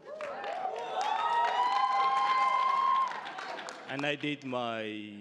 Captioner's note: crowd applauding